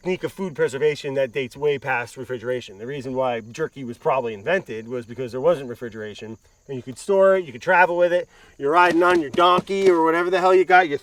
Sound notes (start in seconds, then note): 8.6 hooves clopping